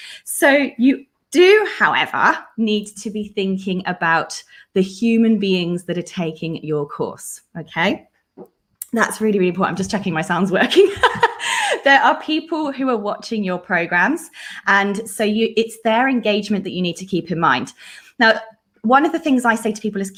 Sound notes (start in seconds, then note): 10.8 laughs